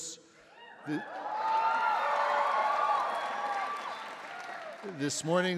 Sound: audience cheering

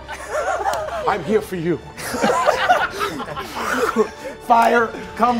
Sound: laughing

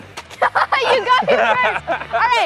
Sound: laughs

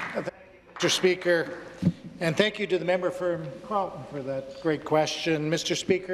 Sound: some Applause

